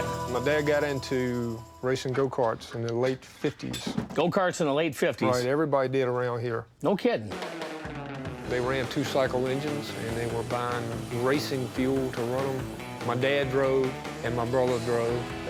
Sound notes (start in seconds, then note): none